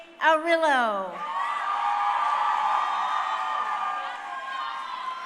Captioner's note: crowd cheering